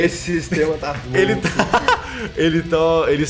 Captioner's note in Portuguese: risos